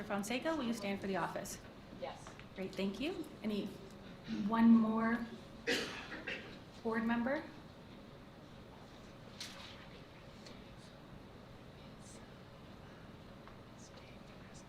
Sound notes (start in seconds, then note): 5.6 member coughing; 9.3 board members whispering